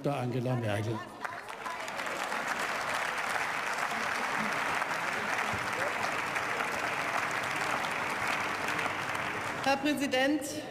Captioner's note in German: Beifall